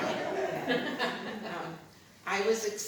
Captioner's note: laughter